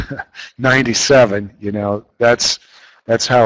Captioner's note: chuckles